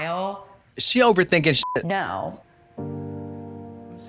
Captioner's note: beep; sad piano music